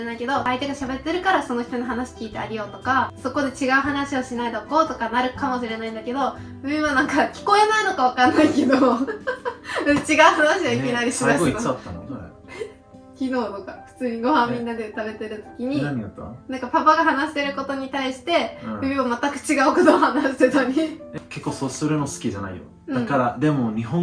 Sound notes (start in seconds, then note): 11.7 laughs